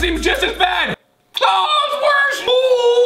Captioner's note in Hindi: चिल्लाता है